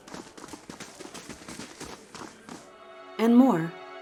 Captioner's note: background chatter